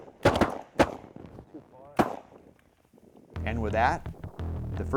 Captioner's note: gunshots